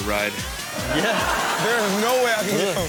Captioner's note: audience laughs